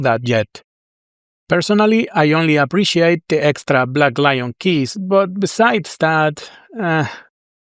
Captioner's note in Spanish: sonido de decepción